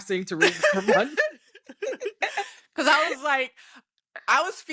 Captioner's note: laughs